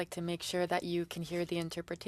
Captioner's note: speaking French